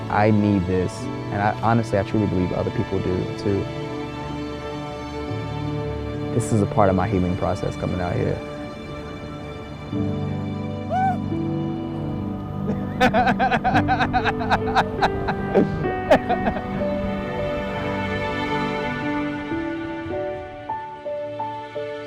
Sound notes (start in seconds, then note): 12.7 laughing; 16.1 pensive music